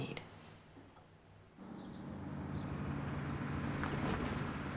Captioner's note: bus approaches